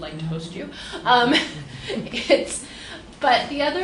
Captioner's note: laughs